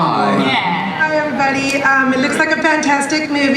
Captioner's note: voiceover